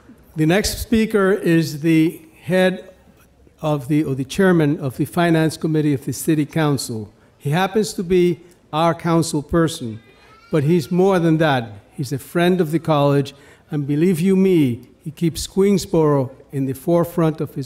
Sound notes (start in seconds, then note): none